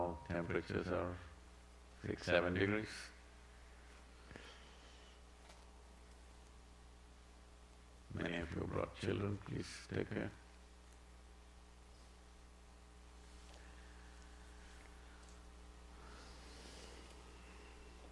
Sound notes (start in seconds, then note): 13.4 laughs